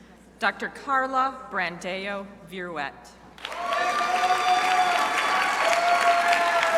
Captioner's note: crowd applauding